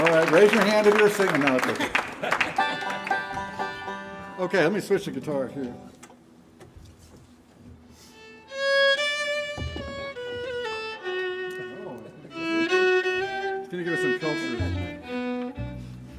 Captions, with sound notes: Alright, raise your hand if you were singing. No, I'm joking. [banjo strumming] [audience applauding] Okay, let me switch to guitar here. [gentle fiddle music] Wow. It's gonna give us some filter.